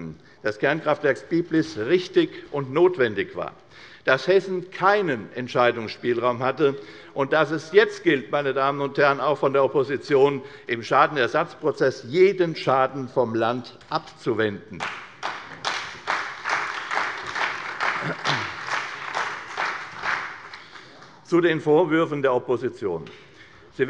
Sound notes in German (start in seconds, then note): 14.8 Beifall bei der CDU und dem BÜNDNIS 90/DIE GRÜNEN